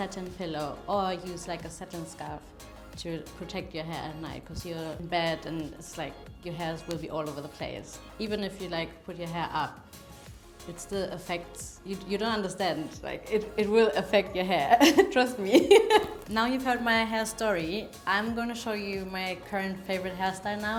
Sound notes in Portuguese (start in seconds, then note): 14.7 risos